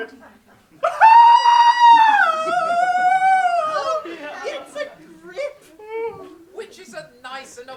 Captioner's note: cries